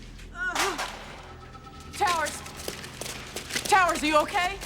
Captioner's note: moans